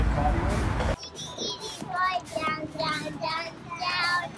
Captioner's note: kids Chatter